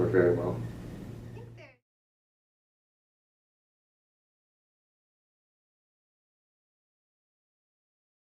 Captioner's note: silence